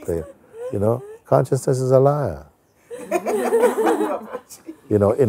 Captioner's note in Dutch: gelach